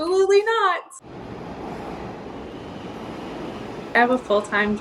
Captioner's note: train engine reeving